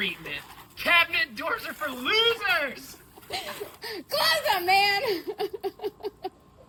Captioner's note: laughs